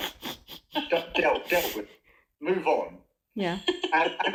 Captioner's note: laughter